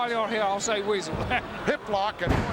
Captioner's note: chuckling